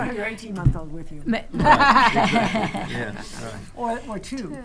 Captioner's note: attendees laughing